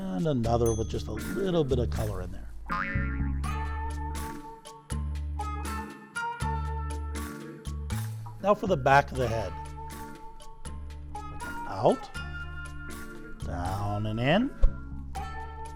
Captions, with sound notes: And another with just a little bit of color in there. (spring boings) (gentle music continues) Now for the back of the head. With an out, down and in.